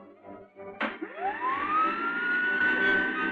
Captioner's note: machine whirring